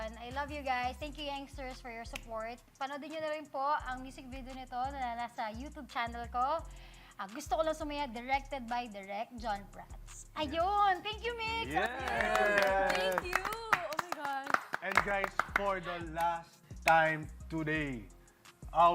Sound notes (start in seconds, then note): 11.7 claps